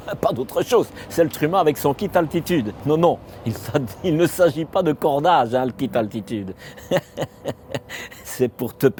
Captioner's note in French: rires